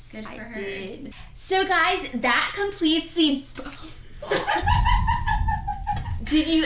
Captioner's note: laughs